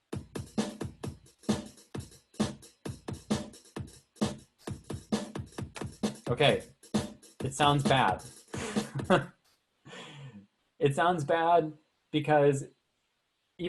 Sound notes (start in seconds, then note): 0.3 electronic music; 8.6 laughing